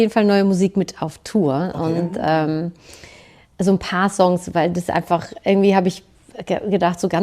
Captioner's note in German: schnauben